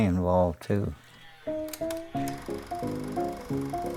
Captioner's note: machine whirring